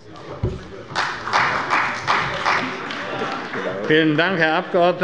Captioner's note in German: Beifall bei Abgeordneten der CDU